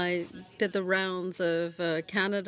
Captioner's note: speaking French